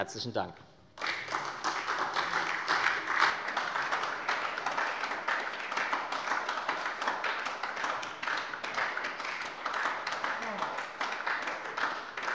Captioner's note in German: Anhaltender Beifall bei der SPD